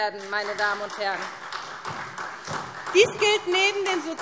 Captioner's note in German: Beifall SPD